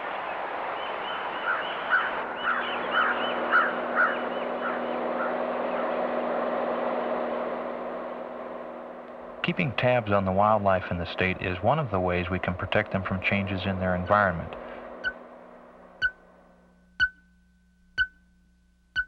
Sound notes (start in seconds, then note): 3.7 airplane sounds; 14.8 beeping sound